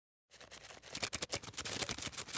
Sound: wings flapping

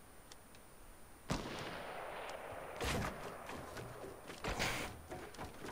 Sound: distant gunfire

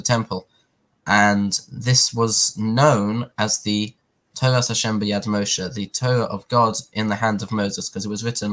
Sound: Hebrew

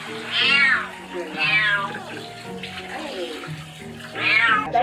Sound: water sprinkling; meowing

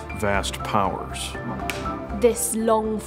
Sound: clappers clapping

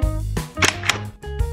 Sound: door opens

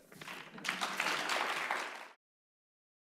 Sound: applause

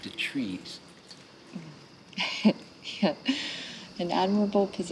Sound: laughs

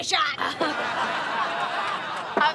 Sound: chuckles

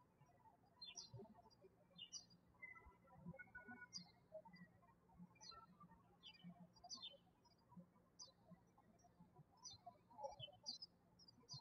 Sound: birds chirping

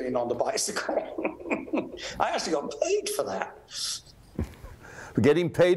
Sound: laughs

